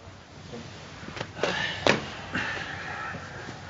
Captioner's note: sighing